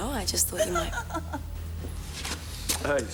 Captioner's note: woman giggling